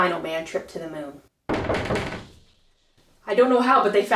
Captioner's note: knock knock knock